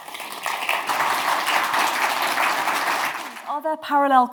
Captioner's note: crowd applauds